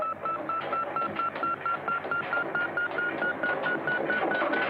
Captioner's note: beeping continues